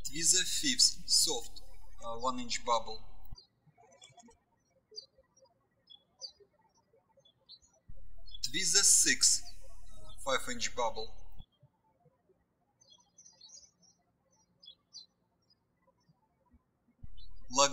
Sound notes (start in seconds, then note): 3.6 birds chirping; 11.6 birds chirping